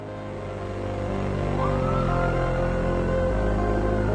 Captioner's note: pulsing music; siren blaring; pulsing music fades